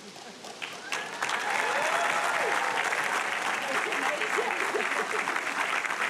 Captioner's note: audience applauding and cheering